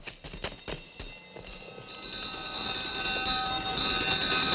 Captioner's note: bells clanking